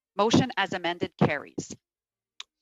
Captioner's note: speaking in French